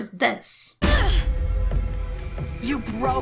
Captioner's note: thud